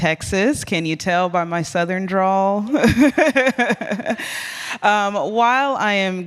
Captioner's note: laughs